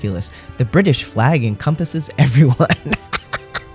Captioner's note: laugh